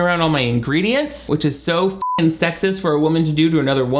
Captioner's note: beep